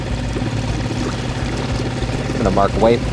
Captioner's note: boat engine revving